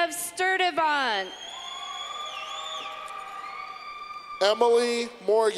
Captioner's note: clapping